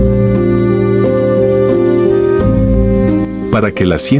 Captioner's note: laughs